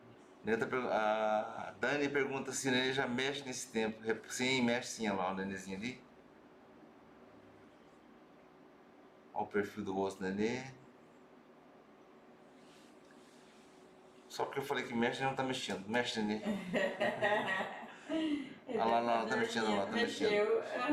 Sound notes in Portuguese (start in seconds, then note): 16.4 risos